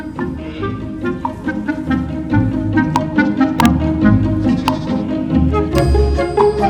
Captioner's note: whimsical music; sheep baaing